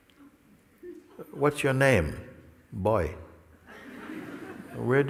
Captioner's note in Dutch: gelach